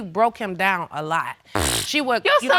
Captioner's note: scoffs